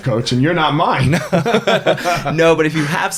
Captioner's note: both laughing